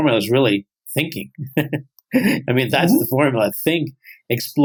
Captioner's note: chuckles